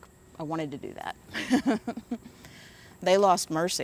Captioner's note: laughs